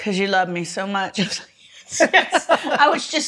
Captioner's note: laughs